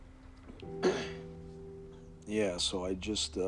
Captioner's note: sniffles; coughs